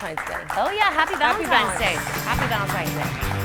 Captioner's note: audience applauds